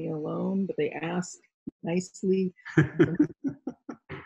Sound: interviewer laughs

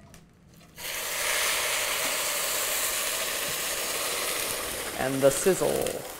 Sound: sizzling

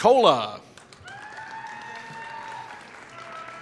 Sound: applause

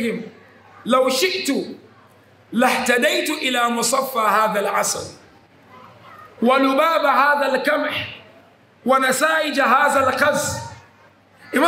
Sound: Arabic

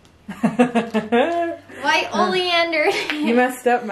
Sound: laughing

